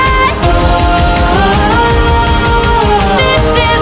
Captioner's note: ohh